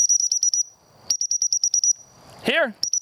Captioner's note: whistle blows